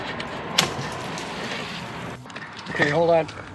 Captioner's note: loud splash